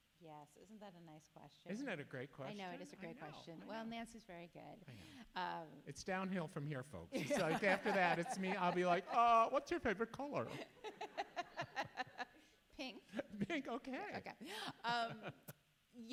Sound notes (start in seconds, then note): 11.3 all laugh; 14.6 chuckles